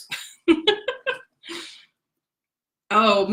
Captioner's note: laughs